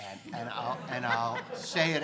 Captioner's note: crowd laughing